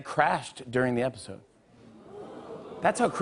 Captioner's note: audience oohs